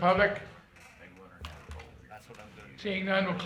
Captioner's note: people murmuring